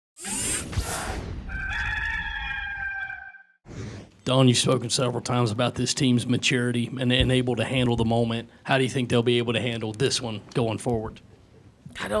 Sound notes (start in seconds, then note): 1.4 cock crows